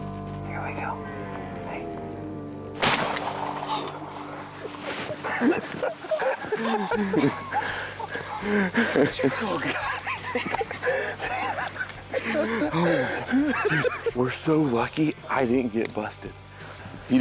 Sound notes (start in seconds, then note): 2.8 gun shoots; 5.0 both laughing